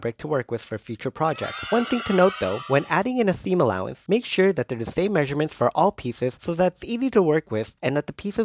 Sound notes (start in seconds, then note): 1.2 children cheering